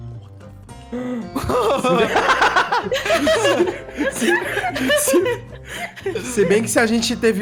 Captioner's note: everyone laughs